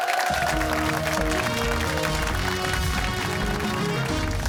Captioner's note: cheers and applause